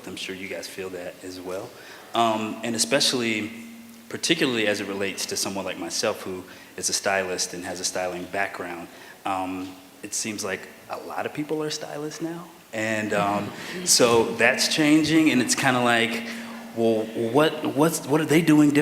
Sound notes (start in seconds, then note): 13.1 laughter